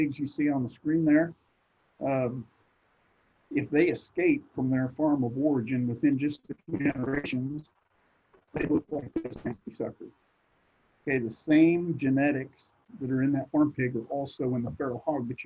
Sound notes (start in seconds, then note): 6.9 connectivity hitch drowns other sounds